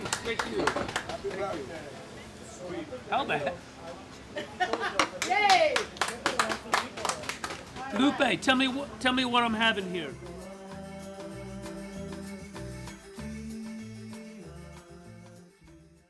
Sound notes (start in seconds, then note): 4.9 laughs